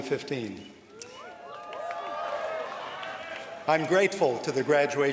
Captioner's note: cheers